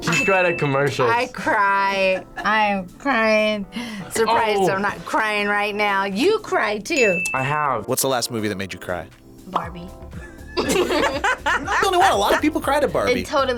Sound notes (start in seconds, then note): 10.1 both laugh